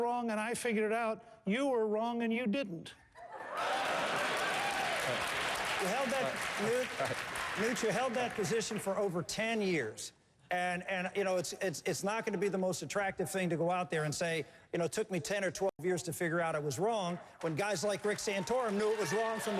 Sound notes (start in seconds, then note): 3.4 applause